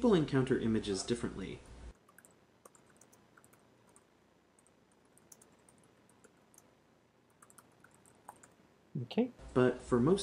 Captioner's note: typing